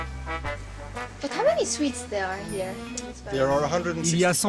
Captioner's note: in English